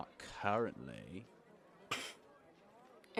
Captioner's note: she snorts